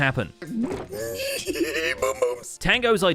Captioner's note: excited noises